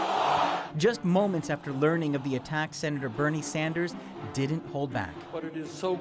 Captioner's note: chanting